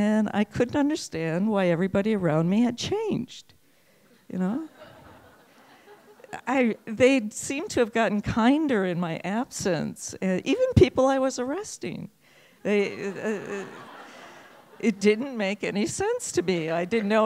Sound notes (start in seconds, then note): 12.7 laughing